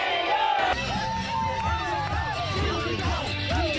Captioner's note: crowd cheering